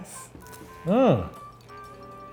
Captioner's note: chewing